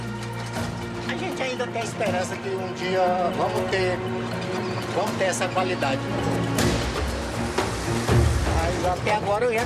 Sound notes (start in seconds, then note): 0.9 Portuguese spoken audio